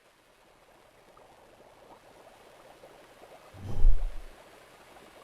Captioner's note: water bubbling